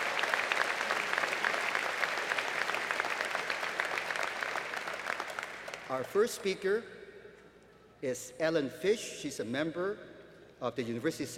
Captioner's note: applause